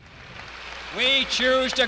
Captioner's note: applause